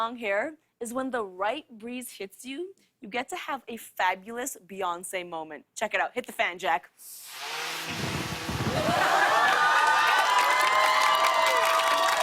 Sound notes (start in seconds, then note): 7.3 fan whirring; 8.6 cheers and applause